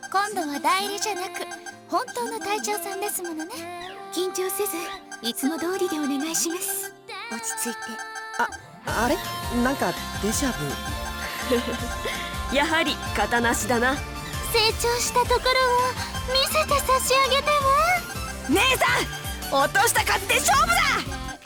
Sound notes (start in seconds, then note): 11.2 chuckle